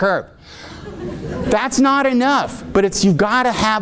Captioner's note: audience laughing